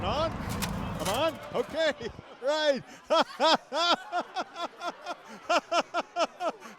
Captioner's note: laughing